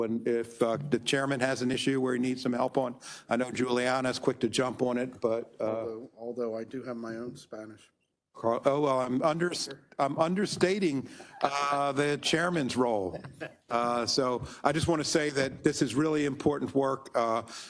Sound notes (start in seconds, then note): 13.0 member laughs